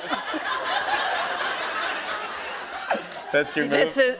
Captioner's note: laughter